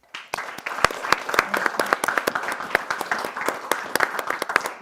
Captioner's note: audience applause